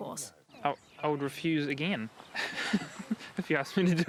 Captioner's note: laughing